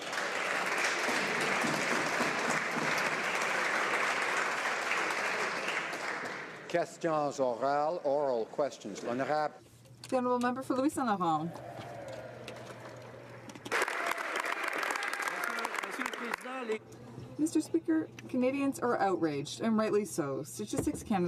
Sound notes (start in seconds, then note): 3.3 some Applause; 10.8 speaking French; 17.5 some Applause